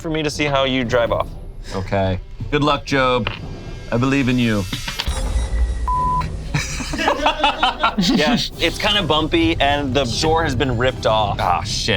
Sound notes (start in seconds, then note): 5.8 beep; 6.4 laughs